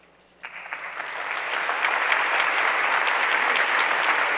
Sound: audience applauds

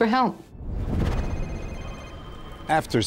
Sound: phone ringing

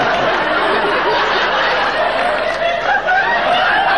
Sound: audience laughing

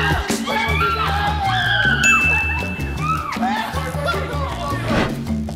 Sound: screaming and cheering; energetic music

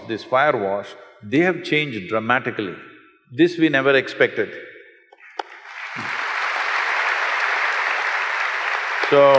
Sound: applause

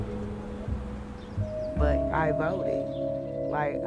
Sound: birds chirping

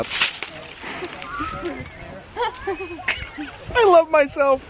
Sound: laughing

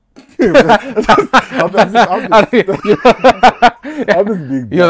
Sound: laughter

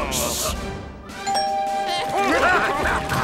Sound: doorbell ringing; laughing

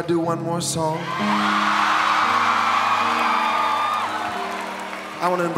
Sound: audience cheering

